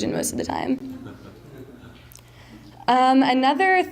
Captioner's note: mild laughter